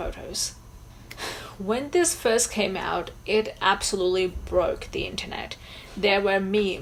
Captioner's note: sighs